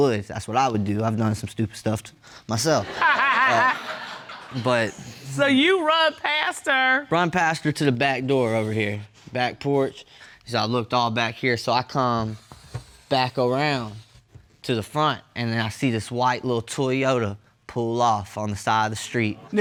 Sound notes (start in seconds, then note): 2.8 judge laughing